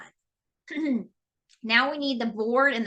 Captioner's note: clearing throat